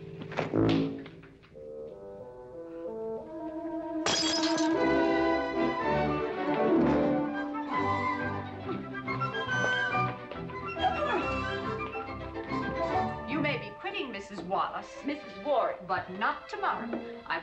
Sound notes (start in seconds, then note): 0.3 thud; 4.1 smash